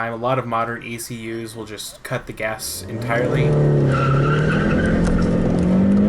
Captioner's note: engine revving; tires squealing